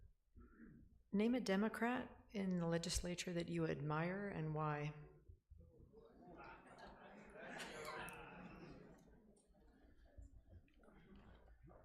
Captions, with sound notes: Name a democrat in the legislature that you admire and why? (laughing)